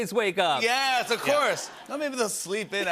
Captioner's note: laughter